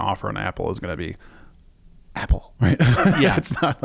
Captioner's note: laughs